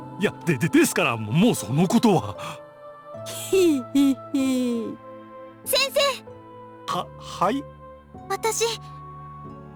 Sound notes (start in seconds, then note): 4.1 snicker